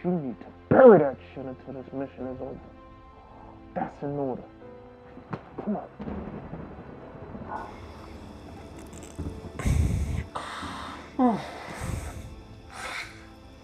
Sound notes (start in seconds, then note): 5.2 slaps; 7.7 thunder in distance; 11.2 sad music continues